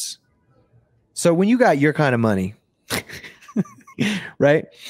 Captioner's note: chuckles